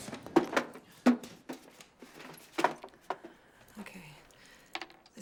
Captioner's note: box clattering